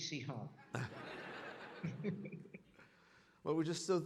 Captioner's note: audience laughing